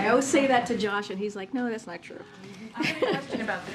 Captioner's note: laughs